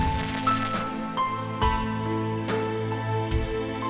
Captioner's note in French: Explosion